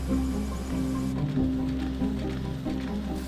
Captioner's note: machinery clicking